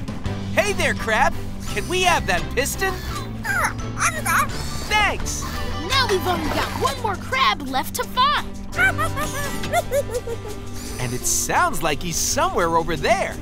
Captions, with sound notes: Hey there, crab. Can we have that piston? [squeaking] Thanks! Now we've only got one more crab left to find. [giggling] And it sounds like he's somewhere over there.